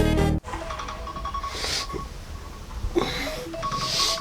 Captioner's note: alarm ringing